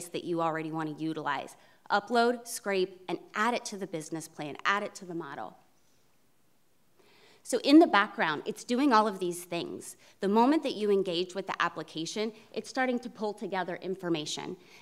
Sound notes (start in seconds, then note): none